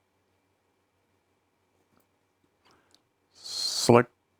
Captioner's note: silence